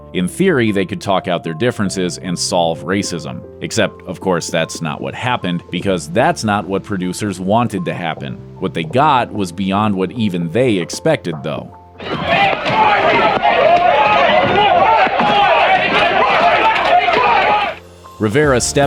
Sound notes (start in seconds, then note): 12.0 sounds of people fighting